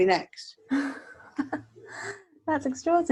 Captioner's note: laughs